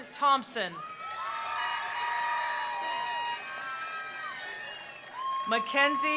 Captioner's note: attendees cheering; attendees applauding